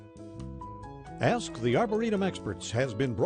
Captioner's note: voiceover